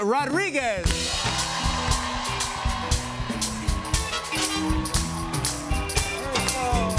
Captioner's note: cheers and applause